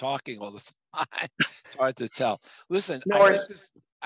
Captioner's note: laugh